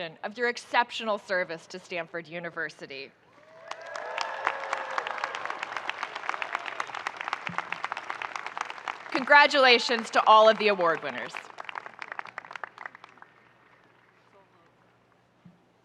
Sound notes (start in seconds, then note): 3.5 audience cheering and applauding